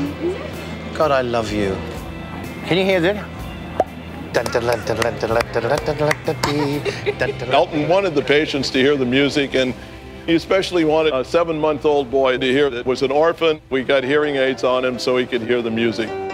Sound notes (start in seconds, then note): 3.7 pops mouth; 4.3 singing